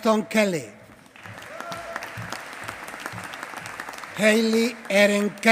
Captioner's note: applause